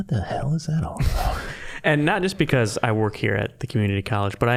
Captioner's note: chuckling